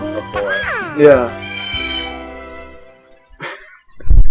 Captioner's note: Magnemite noise plays